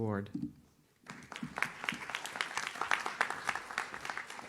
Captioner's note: audience claps